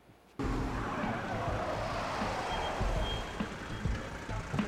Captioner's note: tires screeching, brakes squealing